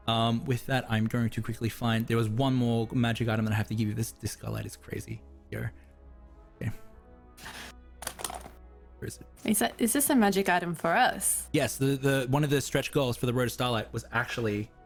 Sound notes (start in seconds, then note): 8.0 clacking keyboard